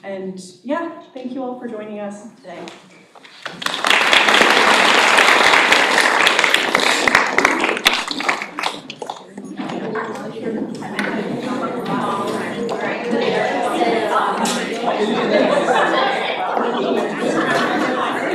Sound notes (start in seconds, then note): 3.3 audience applauding; 10.6 audience conversing